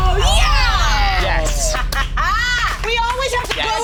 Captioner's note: laughs